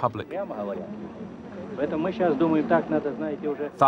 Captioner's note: speaking Russian